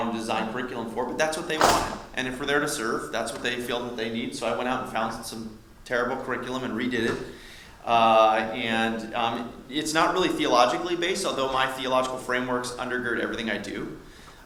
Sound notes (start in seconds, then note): 1.5 loud slam